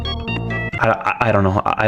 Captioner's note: stutter Moment